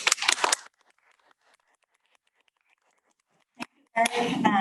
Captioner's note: audience clapping